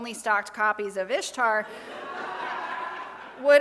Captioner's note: all laugh